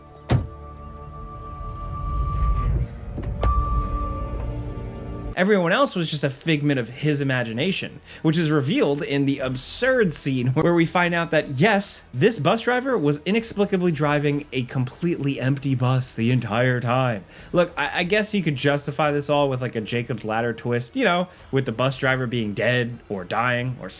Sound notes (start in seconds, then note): 0.2 car door slams; 3.1 car door clunking